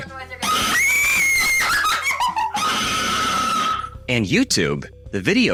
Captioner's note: screams